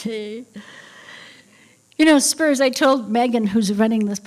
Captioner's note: none